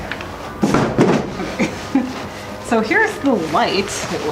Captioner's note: laughing